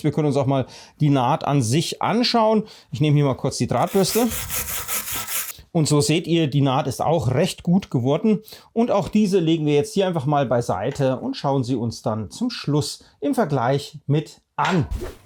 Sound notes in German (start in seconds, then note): 3.8 Kratzendes Geräusch der Drahtbürste